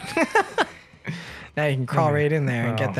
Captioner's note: laughter